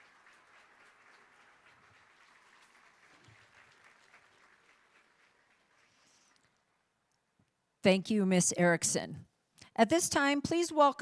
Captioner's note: applauding